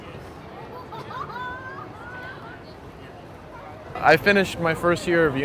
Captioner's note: audience laughing